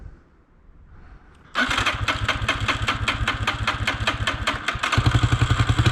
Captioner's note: engine turning